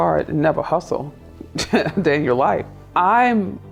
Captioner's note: laughs